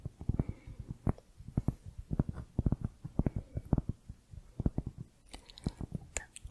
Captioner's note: tapping on cork